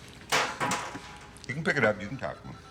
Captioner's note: chair clacking